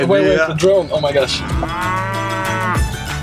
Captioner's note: cow mooing